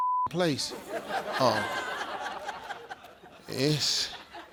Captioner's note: audience laughing